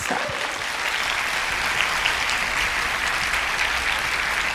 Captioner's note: applause